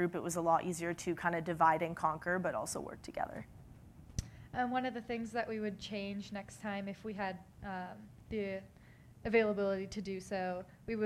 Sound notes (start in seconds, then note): none